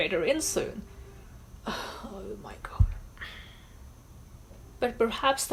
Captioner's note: sighs